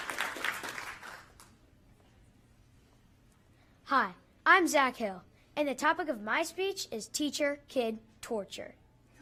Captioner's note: applause